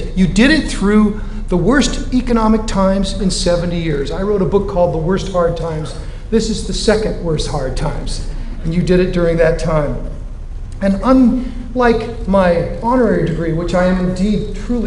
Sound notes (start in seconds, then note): none